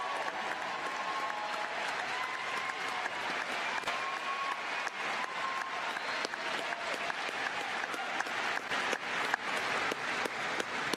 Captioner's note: cheers and applause